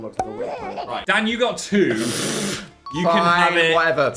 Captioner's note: laughs